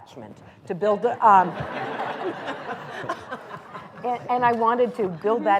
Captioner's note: laughter